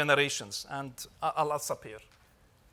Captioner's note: speaks Arabic